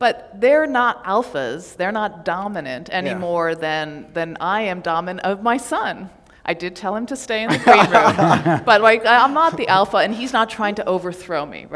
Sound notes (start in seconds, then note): 7.4 laughter